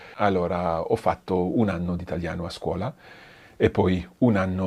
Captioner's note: speaks in foreign language